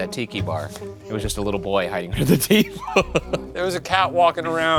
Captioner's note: laughs